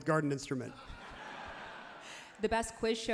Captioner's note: crowd laughs loudly